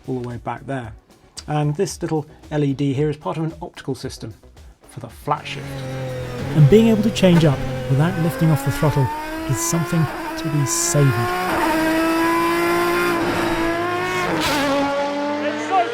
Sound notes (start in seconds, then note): 6.0 engine revving; 14.1 engine roaring